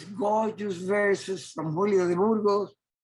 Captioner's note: speaking foreign language